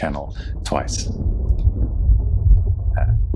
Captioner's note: thunderstorm noise